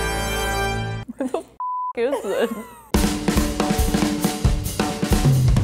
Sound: beep

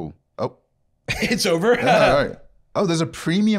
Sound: laughs

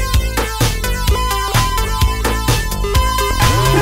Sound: upbeat music; ring beep; distorted laughing

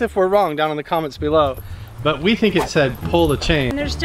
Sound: none

